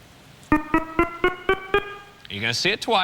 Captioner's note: beeping